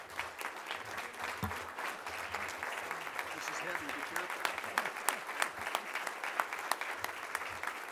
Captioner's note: applause